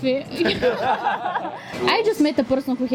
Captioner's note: laughing